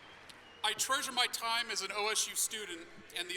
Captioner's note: applause